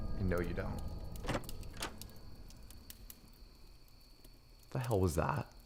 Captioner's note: door handle clicking